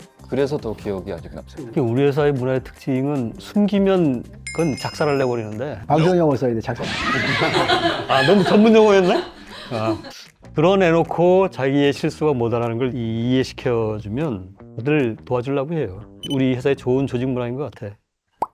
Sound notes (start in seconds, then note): 6.8 laughter; 9.4 laughs